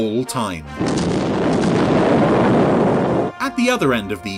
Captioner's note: loud explosions